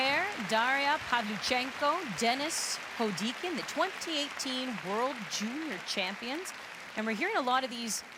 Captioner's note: applause